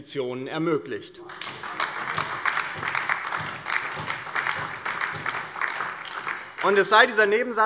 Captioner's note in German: Beifall